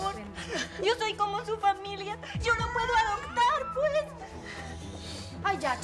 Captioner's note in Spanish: Sollozos